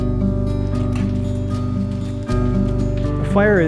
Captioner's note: fire crackling